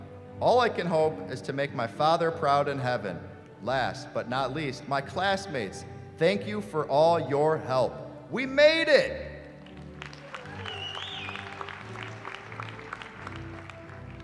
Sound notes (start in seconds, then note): 9.6 applause